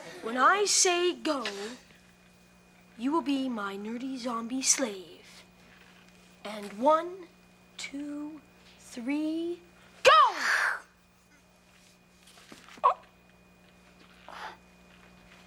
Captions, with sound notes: When I say go, you will be my nerdy, zombie slave. And one, two, three, go! (Kevin gasps)